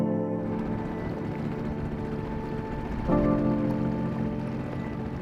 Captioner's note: boat motor humming